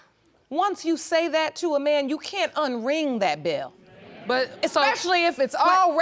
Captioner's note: audience laughing